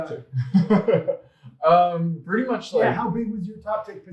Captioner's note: chuckles out loud